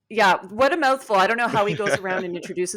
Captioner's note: laughing